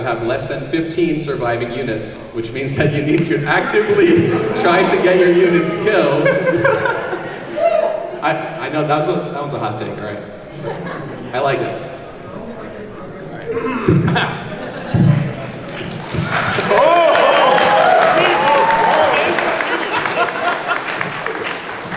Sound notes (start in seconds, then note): 6.4 laughing; 13.4 clears throat; 15.1 applause